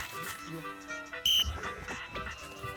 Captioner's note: blows whistle